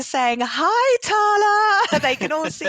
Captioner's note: laughing